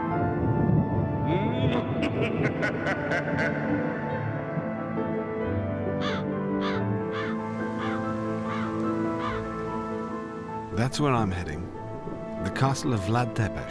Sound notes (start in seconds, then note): 0.2 thunder rumbles; 1.6 Dracula laughs manically; 6.4 crow caws